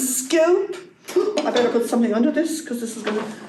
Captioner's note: gasp